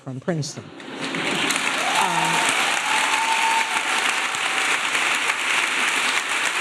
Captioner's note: audience laughing and applauding